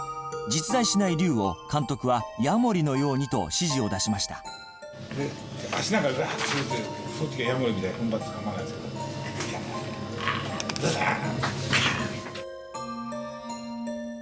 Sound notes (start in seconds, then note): 9.8 growling